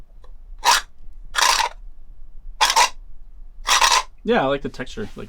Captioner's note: seashells rattling